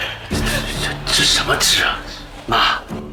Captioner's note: talking